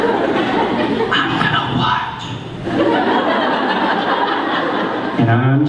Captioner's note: laughter